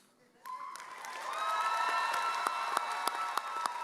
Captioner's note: audience cheering